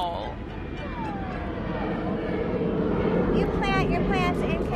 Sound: airplane roaring

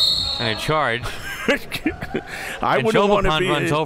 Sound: whistle; laughing

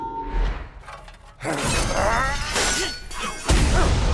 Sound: grunting

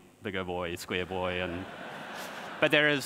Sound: audience laughs

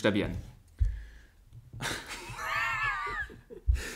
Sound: laughs

